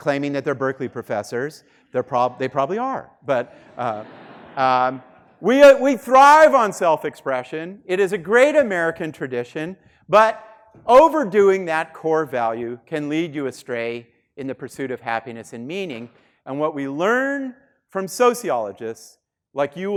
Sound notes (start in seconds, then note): 3.4 students laughing